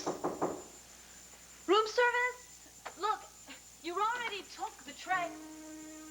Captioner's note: knock on door